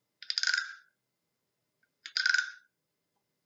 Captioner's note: croak croak